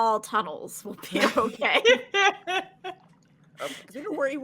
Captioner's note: laughing